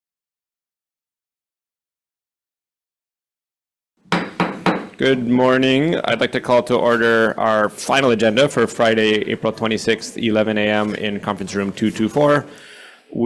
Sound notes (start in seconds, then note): 4.0 gavel banging